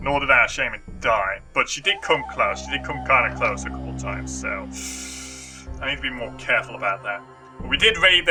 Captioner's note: sharp inhale